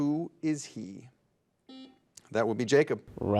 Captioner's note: buzzer dings